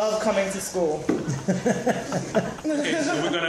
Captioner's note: laughter